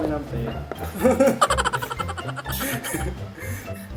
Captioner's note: laughs